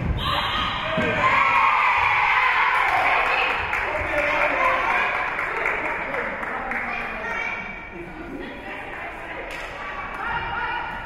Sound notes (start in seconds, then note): 0.3 whistle being blown; 1.3 spectators cheering and applauding